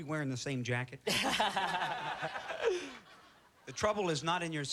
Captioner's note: laughter